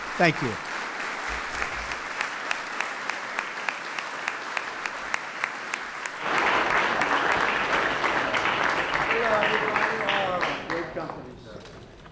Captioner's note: applause